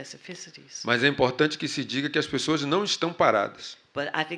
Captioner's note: speaking portuguese